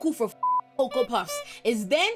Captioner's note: beep